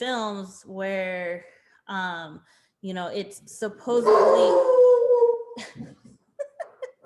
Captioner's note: dog howls again